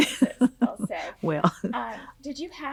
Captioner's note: laughing